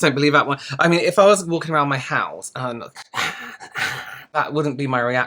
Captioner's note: putrid Breathy Sounds